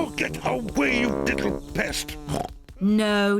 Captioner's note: snorts